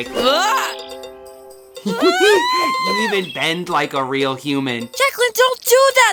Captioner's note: giggling